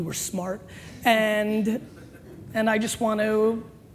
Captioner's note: laughing